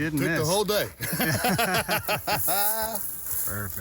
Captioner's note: group laughs